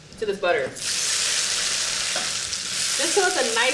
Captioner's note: pan sizzling